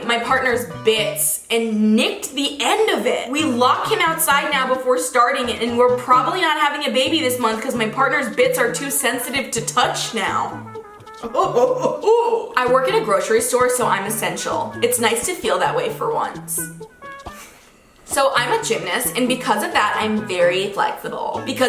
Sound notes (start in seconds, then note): 11.1 gagging